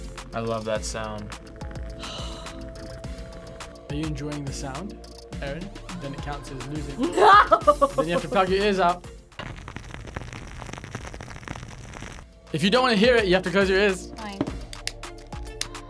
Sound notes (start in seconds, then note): 1.8 sighs; 6.9 laughs; 9.6 fire crackling